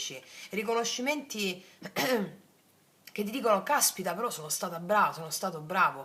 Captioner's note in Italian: schiarire la voce